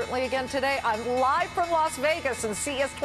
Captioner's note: closing bell rings